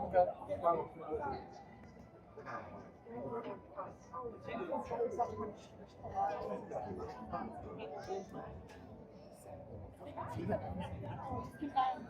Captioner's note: crowd chattering